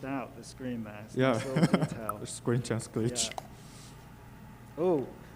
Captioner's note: laughs